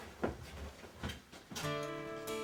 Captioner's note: footsteps; soft music